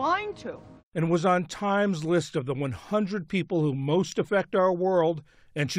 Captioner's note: voice-over